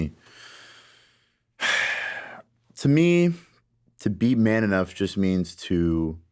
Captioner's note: breathes soundly